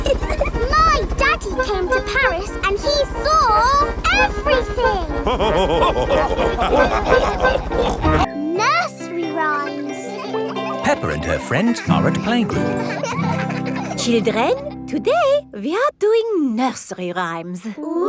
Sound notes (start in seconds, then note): 0.3 chuckles; 4.7 all laughing; 12.9 children laughing